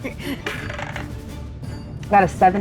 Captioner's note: dice clinks